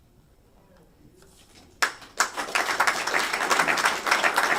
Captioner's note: applause